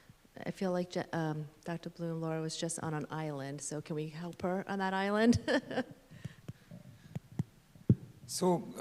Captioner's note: laughter